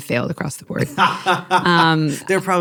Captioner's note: laughing